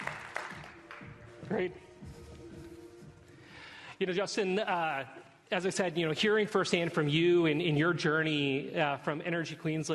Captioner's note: applause